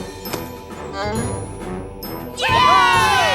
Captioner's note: cheering